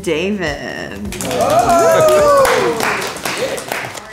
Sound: group cheering

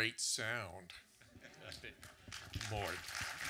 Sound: audience clapping

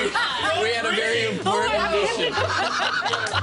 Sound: laughter

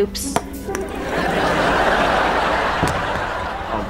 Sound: laughing

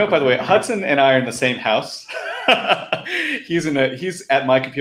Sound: laughing

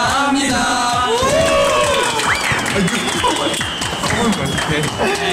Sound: huge fireworks

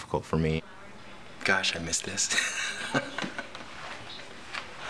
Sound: laughs

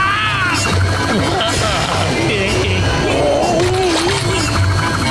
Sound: continues screaming; groaning, gagging

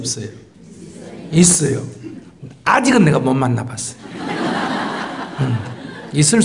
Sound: audience Laughter

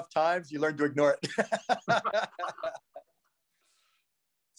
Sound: both laughing

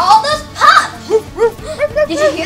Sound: both barking

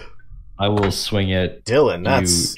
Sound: laughs

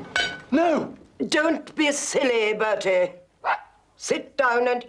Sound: dog barks

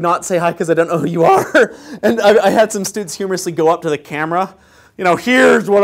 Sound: laugh

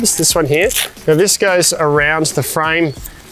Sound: unzipping Velcro

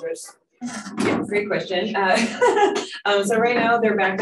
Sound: laughs

